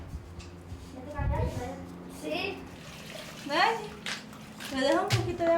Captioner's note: speaking in foreign language